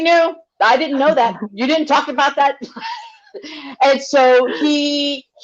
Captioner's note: laughs